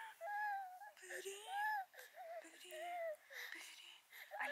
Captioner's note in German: Baby weint, weil es hungrig ist